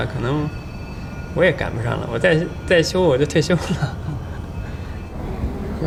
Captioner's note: chuckles